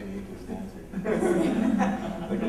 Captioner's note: laughter